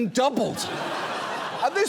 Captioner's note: audience laughs